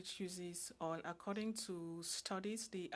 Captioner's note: speaking French